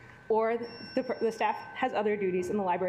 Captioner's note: alarm beeping